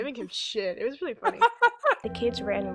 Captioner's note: laughs